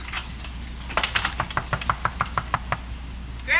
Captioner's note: knocking